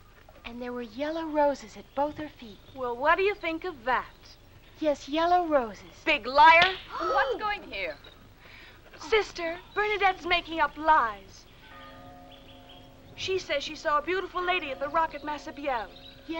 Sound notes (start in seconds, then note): 6.6 hand slapping; 11.6 bell tolling